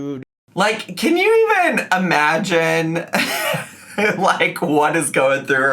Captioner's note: laughs